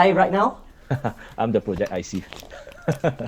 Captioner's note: laughs